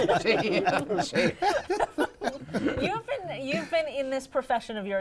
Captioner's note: laughter